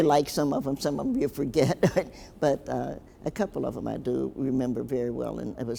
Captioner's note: chuckles